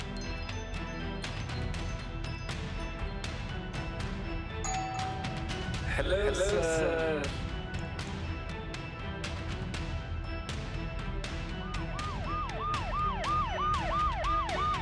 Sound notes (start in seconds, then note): 0.1 ominous Music; 4.6 doorbell; 11.3 ambulance siren